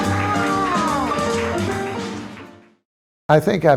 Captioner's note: audience applauds